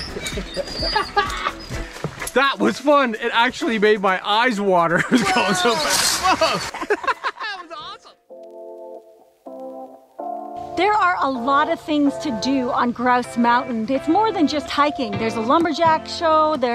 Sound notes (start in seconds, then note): 0.0 both laughing; 7.5 laughs; 9.4 gentle music